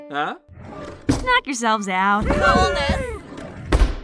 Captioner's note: all cheer